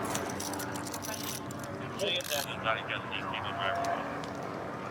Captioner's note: dispatch chatter